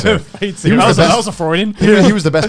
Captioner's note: laughs